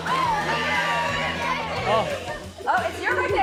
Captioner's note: audience laughs; woman yells